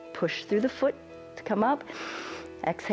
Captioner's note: exhales; inhales